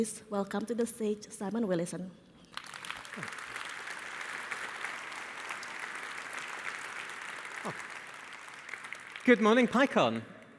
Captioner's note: applause